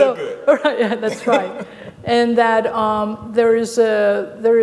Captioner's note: laughing